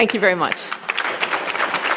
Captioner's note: applause